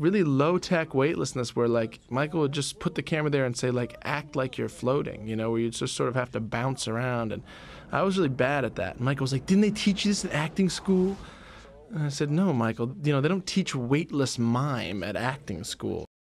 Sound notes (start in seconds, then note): 8.8 weird voice; 11.0 regular voice